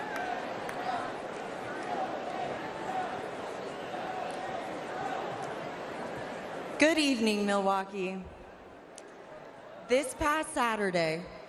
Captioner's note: applause